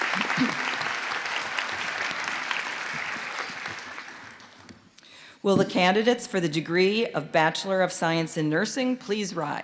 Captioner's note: applause